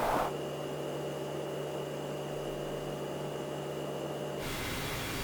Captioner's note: light buzzes